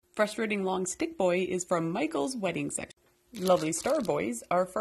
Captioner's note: none